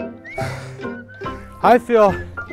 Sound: exhales

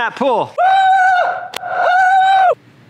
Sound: screams

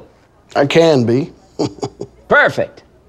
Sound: chuckles

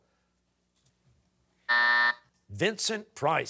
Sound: buzzer

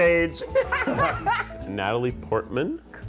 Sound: laughter

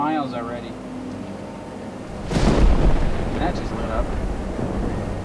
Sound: thundering

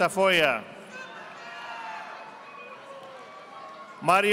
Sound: audience applauding

